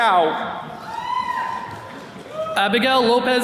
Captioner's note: attendees cheering